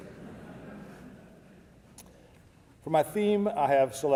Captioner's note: audience laughing